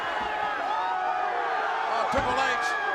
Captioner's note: crowd cheers